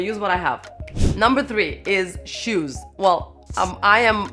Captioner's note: air whooshing